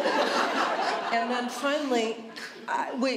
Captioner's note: laughter